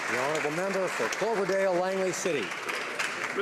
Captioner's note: applause